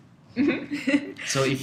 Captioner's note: laugh